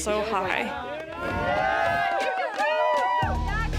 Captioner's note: crowd cheering